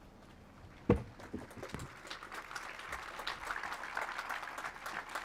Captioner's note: audience applauds